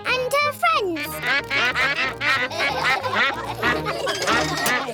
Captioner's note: quacks; all quack; laughter